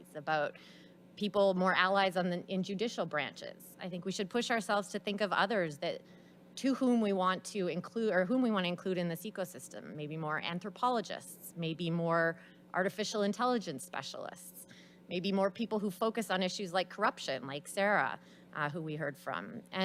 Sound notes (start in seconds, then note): none